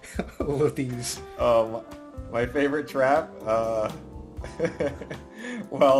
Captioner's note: laughs